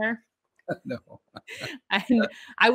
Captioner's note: laughs